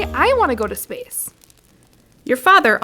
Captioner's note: fire crackling